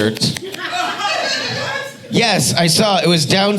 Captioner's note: audience laughing